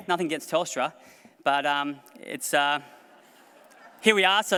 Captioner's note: laughter